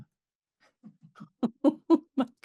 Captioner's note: laughs